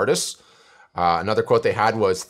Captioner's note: deep breath